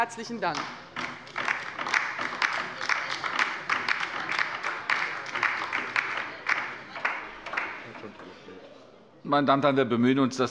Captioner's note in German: Beifall bei der LINKEN